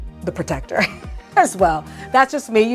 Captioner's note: chuckles